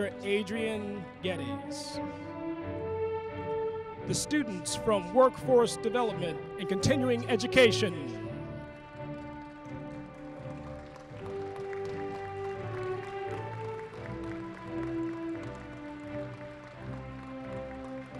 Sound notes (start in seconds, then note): 12.9 applause